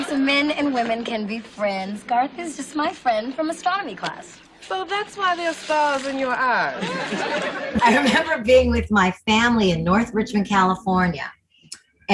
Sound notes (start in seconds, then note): 6.7 laughter